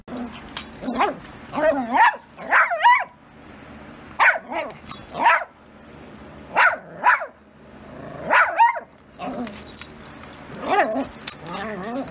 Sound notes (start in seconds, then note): 0.5 Ella growls and barks